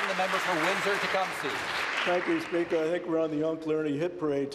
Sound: applause

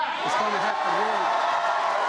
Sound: cheering and applause

